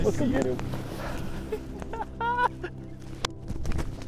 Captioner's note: laughing